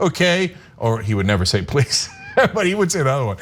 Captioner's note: laugh